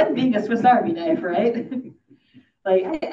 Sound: audience laughing

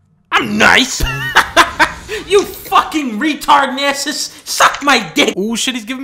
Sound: laughs

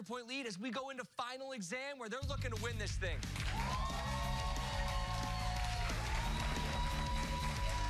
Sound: cheers and applause

